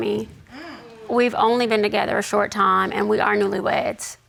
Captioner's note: audience gasps